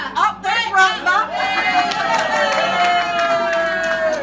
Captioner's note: crowd interrupts; cheering